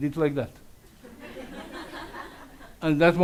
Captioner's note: audience laughs